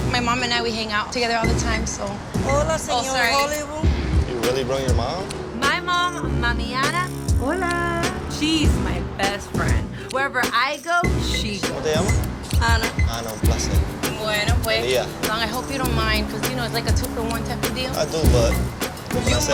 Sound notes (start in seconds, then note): 12.1 speaking Spanish; 13.9 speaking Spanish